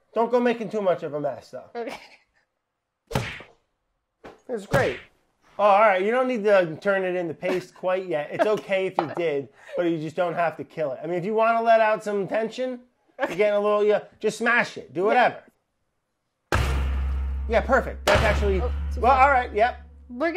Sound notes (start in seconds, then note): 2.9 banging; 16.5 banging